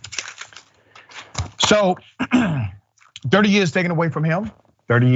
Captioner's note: cough